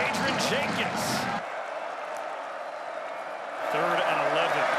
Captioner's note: cheering